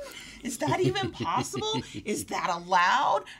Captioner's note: laughs